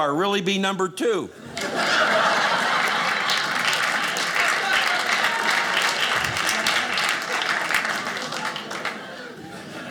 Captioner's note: audience laughing